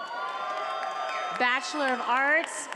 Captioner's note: attendees applauding and cheering